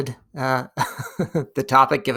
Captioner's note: laughing